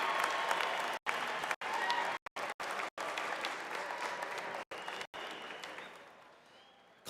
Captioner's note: applause